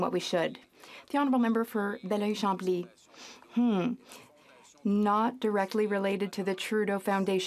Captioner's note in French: voix de l'interprète